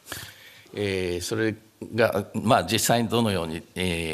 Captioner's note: speaking japanese